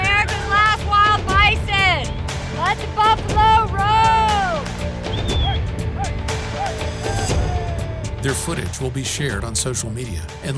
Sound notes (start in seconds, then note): 5.5 men whistling; 6.9 men shouting